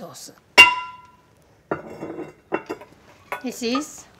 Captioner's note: pot lid clinking